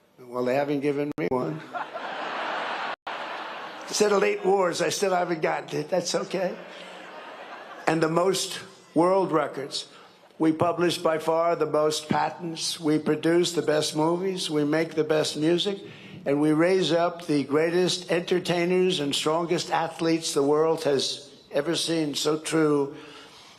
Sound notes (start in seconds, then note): 6.5 laughter